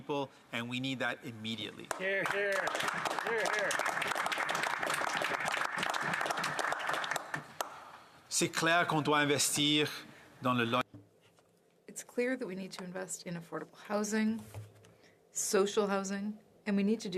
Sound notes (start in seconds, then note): 7.6 some Applause; 11.9 speaking French